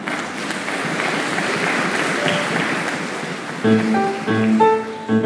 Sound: applause

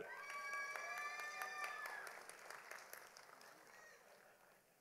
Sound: audience applauding

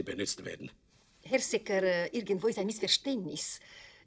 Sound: in German; in German

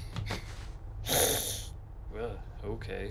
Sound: hiss

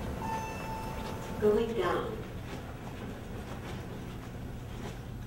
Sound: elevator Sound

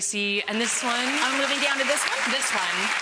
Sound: audience clapping

